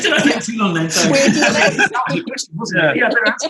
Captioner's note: laughs